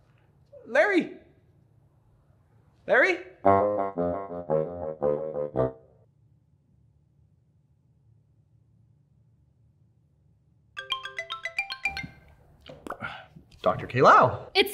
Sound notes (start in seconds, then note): 10.8 ringtone